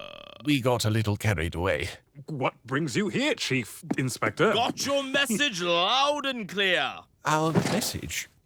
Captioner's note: none